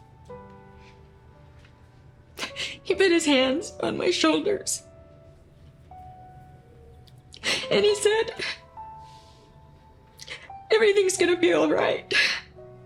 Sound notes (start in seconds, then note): 2.4 sniffles; 6.7 voice breaking